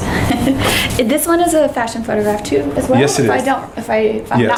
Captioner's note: laughs